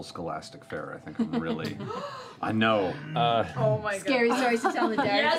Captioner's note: gasps